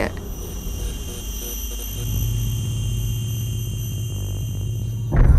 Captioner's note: electricity buzzing